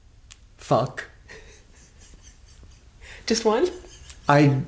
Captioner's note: laughs